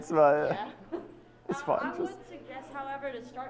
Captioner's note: chuckles